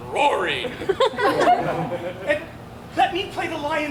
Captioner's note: audience laughs